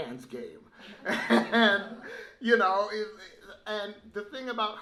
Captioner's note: laughs